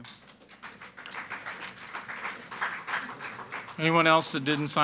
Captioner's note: people clapping